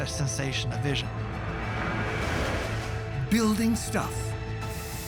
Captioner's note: whirring